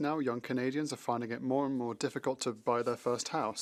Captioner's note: speaking French